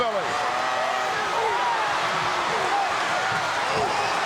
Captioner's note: audience cheering